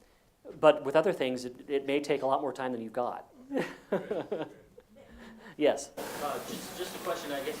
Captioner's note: laugh